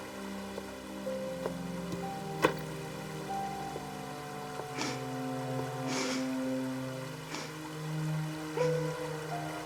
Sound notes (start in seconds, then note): 5.9 Connie crying